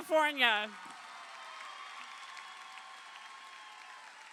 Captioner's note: crowd cheering